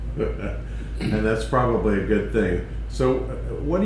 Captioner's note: laughter